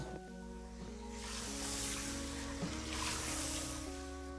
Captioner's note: water spraying